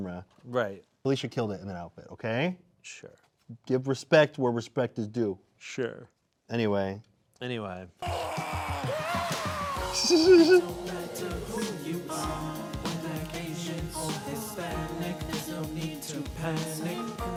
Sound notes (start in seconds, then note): 8.0 man yelling; 9.8 laughing